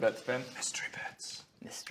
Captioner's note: whispers